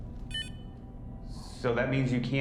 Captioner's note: paralight beeping